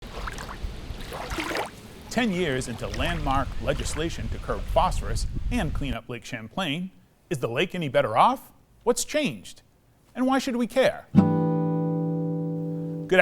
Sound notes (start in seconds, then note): 0.0 water splashing; 11.1 guitar strum